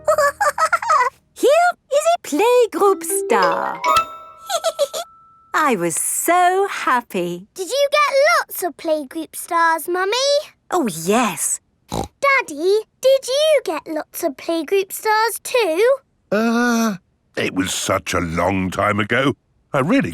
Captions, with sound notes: (SNORTS AND GIGGLES) Here is a playgroup star! (GIGGLES) I was so happy. Did you get lots of playgroup stars, Mummy? Oh, yes! (SNORTS) Daddy, did you get lots of playgroup stars too? Uh... It was such a long time ago...